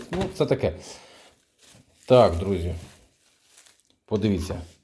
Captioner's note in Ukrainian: сопіння